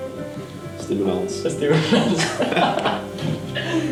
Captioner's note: laughter